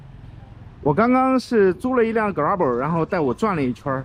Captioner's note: motorcycle